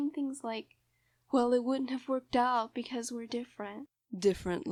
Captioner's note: impersonating